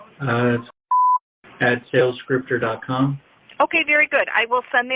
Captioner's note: beep